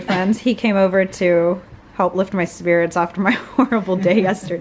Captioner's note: laughs